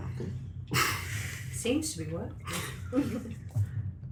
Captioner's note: stutters